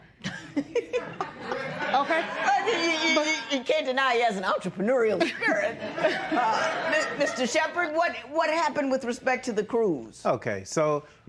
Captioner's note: laughter